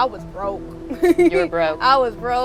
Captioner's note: laughs